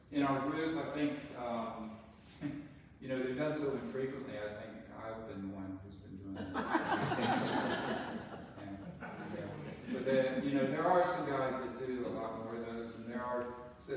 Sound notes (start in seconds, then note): 6.4 audience chuckles